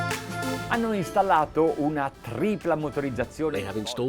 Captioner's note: speaking foreign language